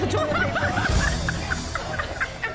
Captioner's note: laughing